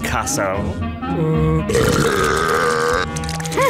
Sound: burping; giggling

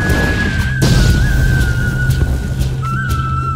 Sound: explosion

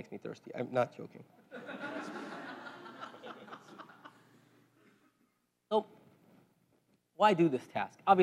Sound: laugh

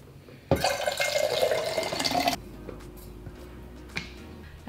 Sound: water pouring

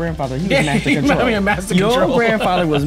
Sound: chuckling

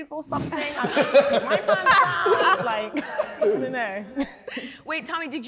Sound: challengers laugh

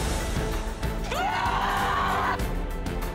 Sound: all scream

